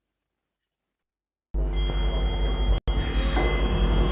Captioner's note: ringing & loud, low pitched vibration during scene